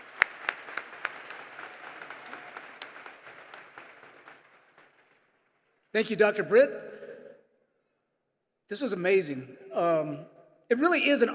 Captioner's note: applause